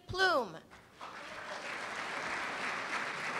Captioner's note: applause